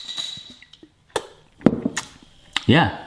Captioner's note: lid clicks and clinks; sipping